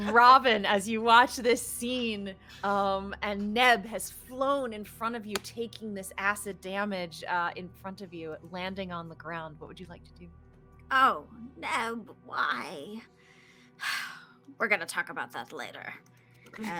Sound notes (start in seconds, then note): 13.9 sighs